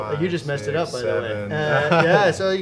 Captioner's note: laughs